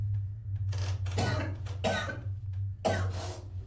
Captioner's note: Willem coughing